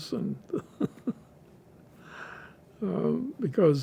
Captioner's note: laughing